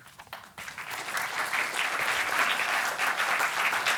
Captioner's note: applause